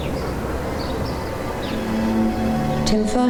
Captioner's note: birds chirping